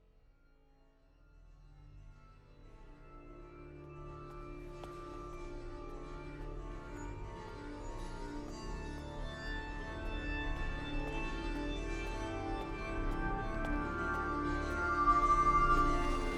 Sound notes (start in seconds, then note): none